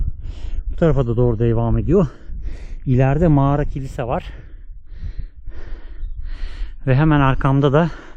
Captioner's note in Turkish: iç çeker